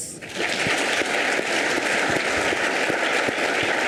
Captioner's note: audience applauds